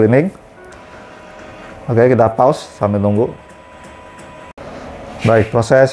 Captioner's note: printer machine noise